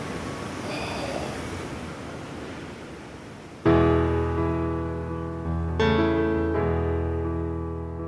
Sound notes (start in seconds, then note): 0.7 sighs; 3.6 melancholic piano music